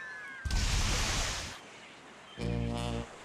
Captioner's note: splashing